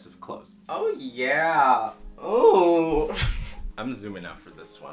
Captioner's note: laughs through nose